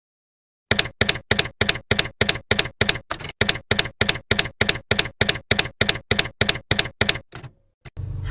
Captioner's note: typewriter keys clacking